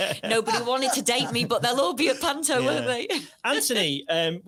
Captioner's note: laughs